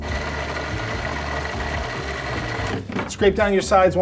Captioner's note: food processor whirring